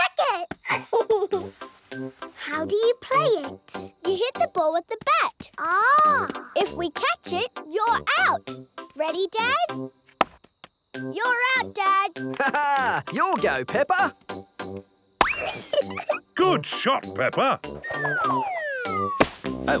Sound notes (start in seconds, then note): 0.6 giggles; 15.4 giggles